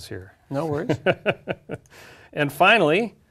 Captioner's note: laugh